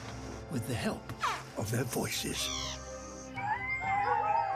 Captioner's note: chirps; yelps; howling